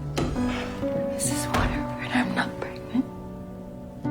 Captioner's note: voiceover